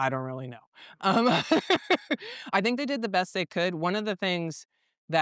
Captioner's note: laugh